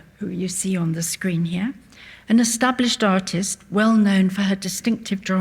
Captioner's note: none